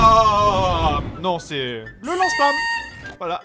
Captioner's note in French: bruit de serpentin